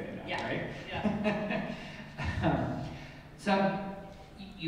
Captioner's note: laughs